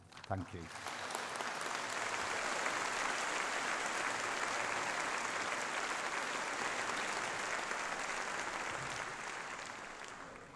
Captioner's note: applause